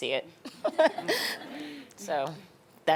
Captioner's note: laughing